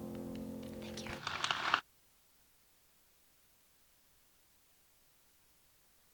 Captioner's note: audience applauds